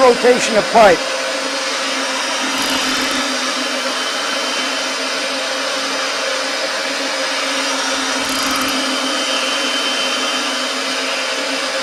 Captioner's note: Roll Groover Machine Noise